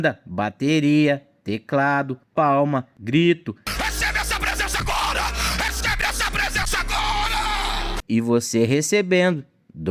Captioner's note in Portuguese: grito